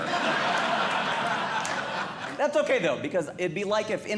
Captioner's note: audience Laughing